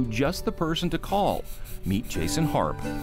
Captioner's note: stone scratching